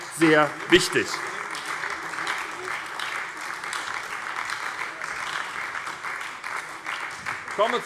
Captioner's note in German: Beifall bei der SPD - Vizepräsident Wolfgang Greilich übernimmt den Vorsitz